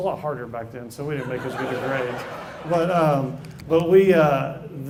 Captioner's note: laugh